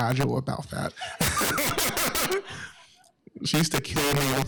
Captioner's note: laughter